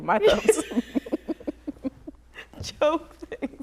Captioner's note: laughter